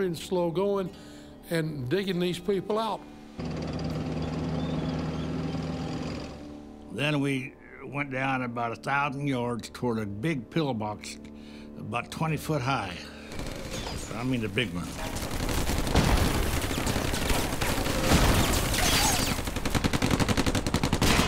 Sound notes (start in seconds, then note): 3.3 metal squeaking; 3.4 tank rumbling; 14.6 rapid gunfire exploding; 16.2 cannon shots exploding; 16.2 rapid gunfire exploding